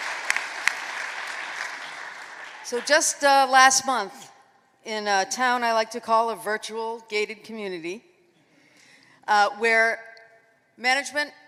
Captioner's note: applause